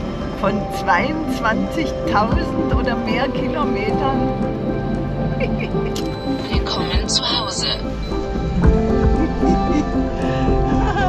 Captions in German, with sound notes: Von 22.000 oder mehr Kilometern ... (Sie kichert.) "Willkommen zu Hause." (Glückliches Kichern)